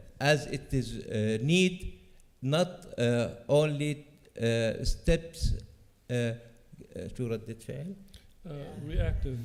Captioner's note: non-english speech